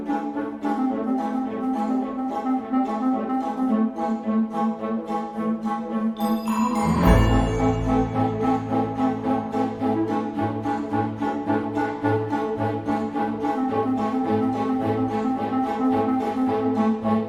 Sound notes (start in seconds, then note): 3.0 Krel: high larynx, nasal, touch of growl